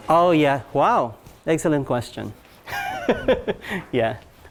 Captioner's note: laughs